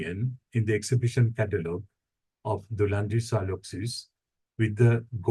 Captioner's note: speaking foreign language